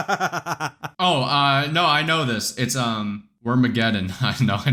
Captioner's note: laughs